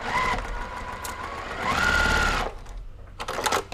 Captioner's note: machine whirring